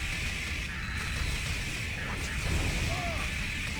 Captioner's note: grunting